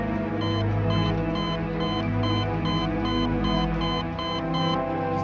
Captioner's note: machine beeping rapidly